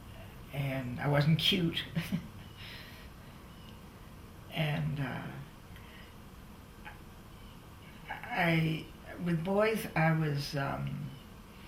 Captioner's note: laughs